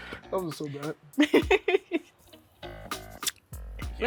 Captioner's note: laughs